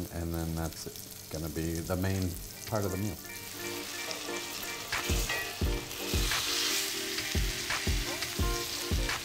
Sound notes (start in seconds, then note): 3.6 upbeat music; 4.8 oil sizzles